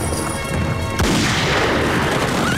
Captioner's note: Gunshot